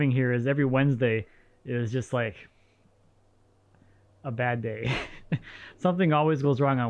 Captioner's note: laughs